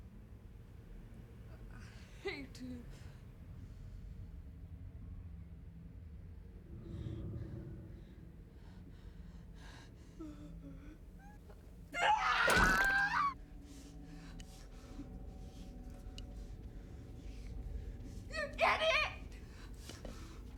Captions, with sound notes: I HATE YOU. [ Screams ] YOU IDIOT!